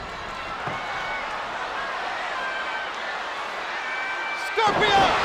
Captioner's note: spectators cheering